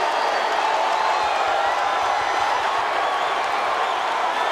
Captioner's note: crowd roars